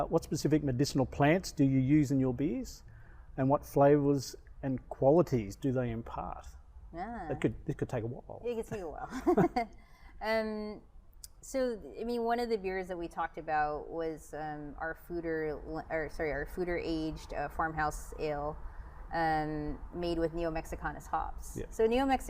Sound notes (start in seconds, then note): 9.1 laughs